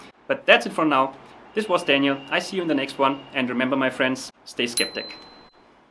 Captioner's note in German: skeptisch